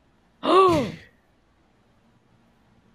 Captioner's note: gasps